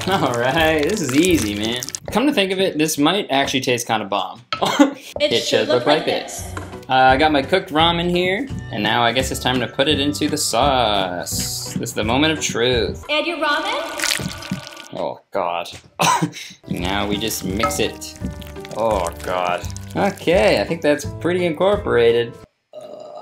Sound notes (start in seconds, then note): 0.0 cheese slurping; 4.8 laughing; 13.8 ramen slithering; 15.9 laughing; 16.7 ramen slithering